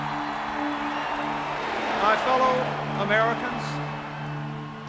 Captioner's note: crowd cheering